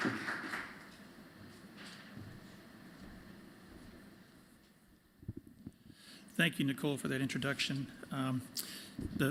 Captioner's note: applause